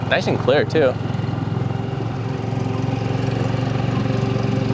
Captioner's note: motor revving